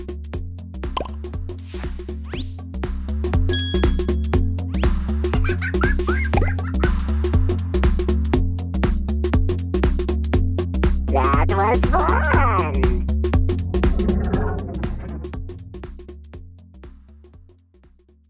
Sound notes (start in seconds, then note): 5.3 laughter